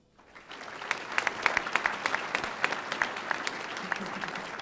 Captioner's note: audience applauding